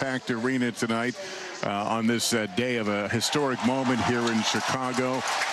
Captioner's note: applause